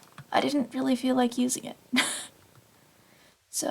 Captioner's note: laughs